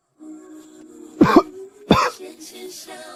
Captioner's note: cough cough